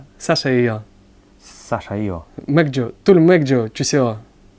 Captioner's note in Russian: на корейском; на корейском